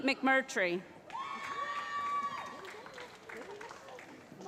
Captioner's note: cheering